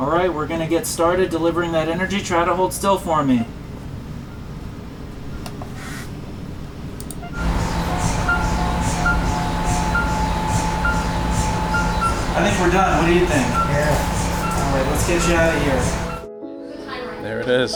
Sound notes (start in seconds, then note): 7.1 machine whirring; 7.1 machine beeping